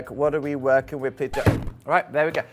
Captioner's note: record scratch